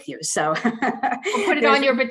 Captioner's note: laughs